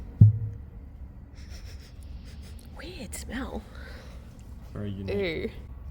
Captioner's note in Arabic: شم